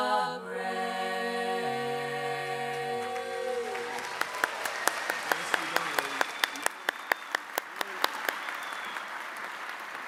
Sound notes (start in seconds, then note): 2.9 audience applauding